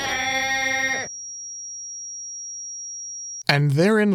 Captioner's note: high-pitched ringing